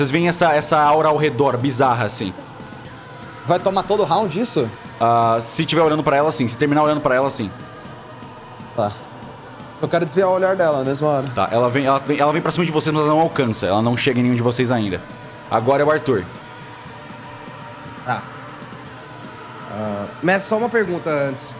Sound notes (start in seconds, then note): none